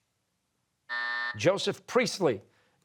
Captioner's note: buzzer